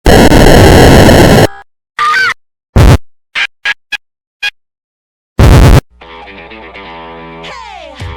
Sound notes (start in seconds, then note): 0.0 dramatic glitch; 2.0 screaming; 2.1 bitchy Squeal